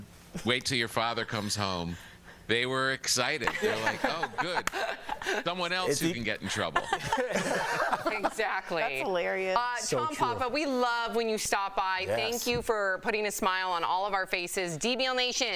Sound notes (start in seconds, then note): 6.4 laughter